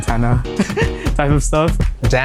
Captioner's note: giggles